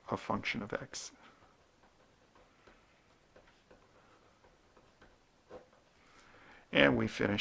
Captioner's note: writing